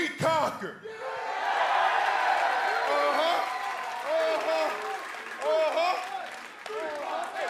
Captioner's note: cheers and applause